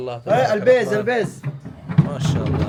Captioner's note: Arabic